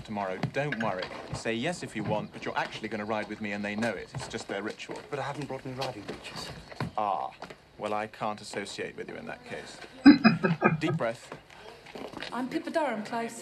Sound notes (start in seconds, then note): 10.0 chuckling